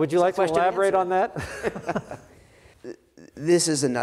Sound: laughs; both laughing

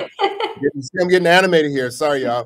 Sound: laughing

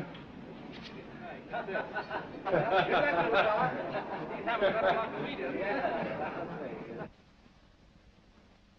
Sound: jokes and laughter

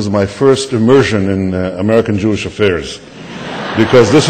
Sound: laughter

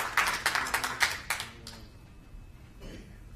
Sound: applause

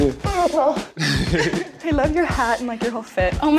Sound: laughs

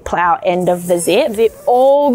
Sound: zipper sliding

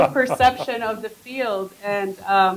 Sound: laughter

